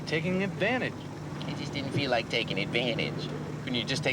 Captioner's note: imitates ted